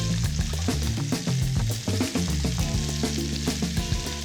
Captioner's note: sizzling